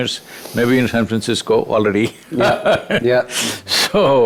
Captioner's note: laughs